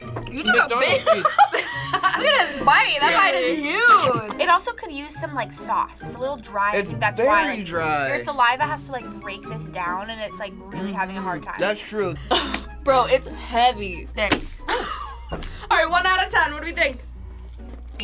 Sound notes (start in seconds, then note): 0.7 laughs; 12.2 chuckles; 14.4 taco thudding; 14.7 chuckling